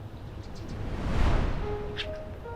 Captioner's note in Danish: whoosh